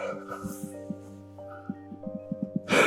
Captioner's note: exhales deeply